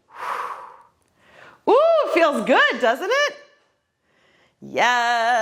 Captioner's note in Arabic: زفير